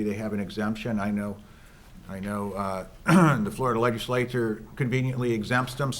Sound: clears throat

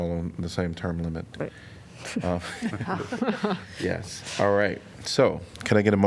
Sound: laughter

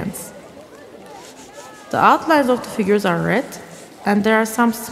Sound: the sound of scrubbing

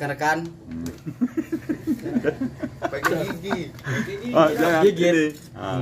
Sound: laughing

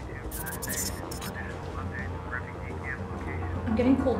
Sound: radio broadcasting

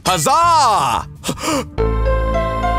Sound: gasp

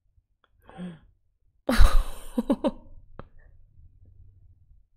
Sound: laughs

